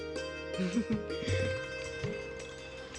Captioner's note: chuckling